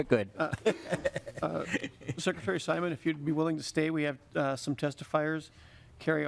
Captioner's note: laughing